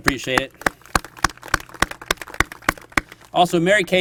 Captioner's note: applause